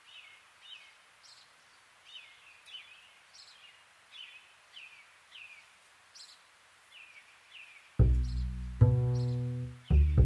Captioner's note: nature ASMR; bird chirping